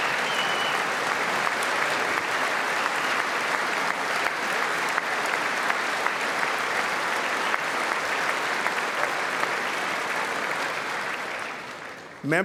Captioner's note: applause; applause